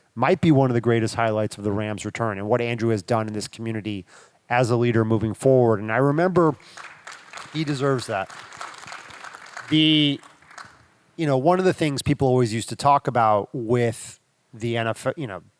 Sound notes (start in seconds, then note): 6.3 attendees clapping